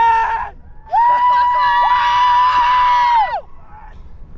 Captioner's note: guys cheering